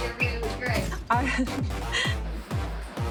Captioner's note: chuckles